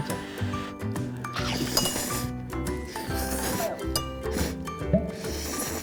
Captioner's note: slurp!